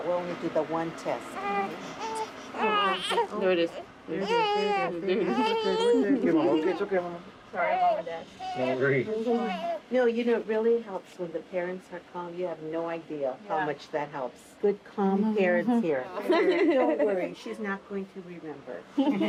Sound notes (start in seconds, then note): 1.3 baby crying